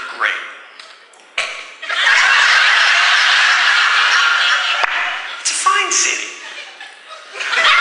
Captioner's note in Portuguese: quase gargalhando